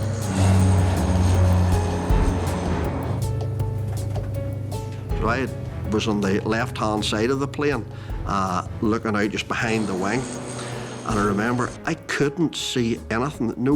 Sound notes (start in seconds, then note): 0.0 plane engine roars